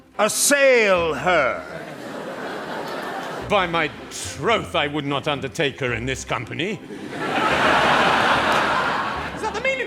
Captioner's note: laughter